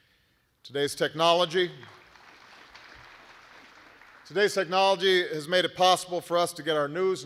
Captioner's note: applause